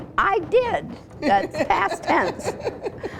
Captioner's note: laughs